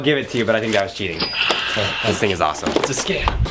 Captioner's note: cha-ching